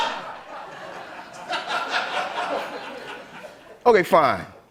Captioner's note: laughter